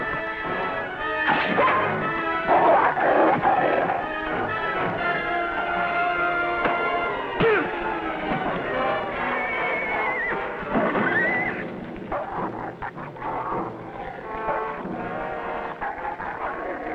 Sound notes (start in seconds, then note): 0.2 dog growls; 9.1 horse neighs; 13.8 dog growling